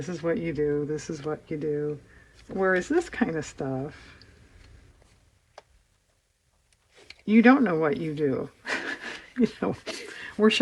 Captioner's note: laughs